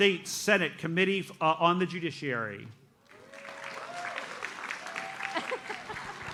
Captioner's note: audience applauds